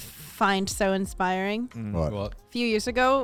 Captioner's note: exhales sharply